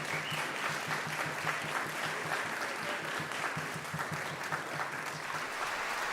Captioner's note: audience clapping continues